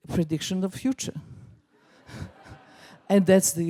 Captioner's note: laughs